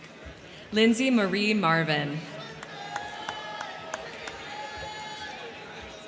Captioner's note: crowd cheering; crowd cheering